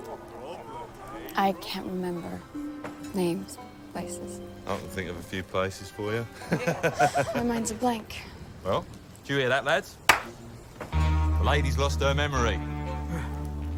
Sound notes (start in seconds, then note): 6.3 laughs